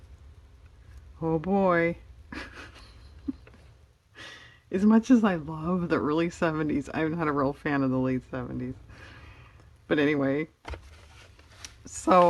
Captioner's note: laughs